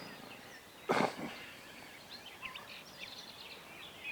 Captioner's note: hunter coughing; birds tweeting